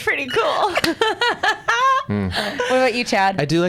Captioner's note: laugh